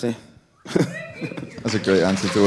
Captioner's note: audience cheering